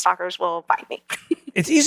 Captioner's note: laugh